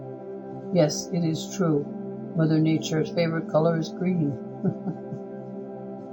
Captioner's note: chuckle